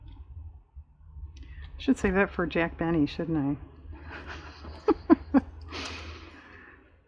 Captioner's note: laughs